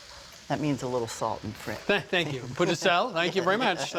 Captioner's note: chuckles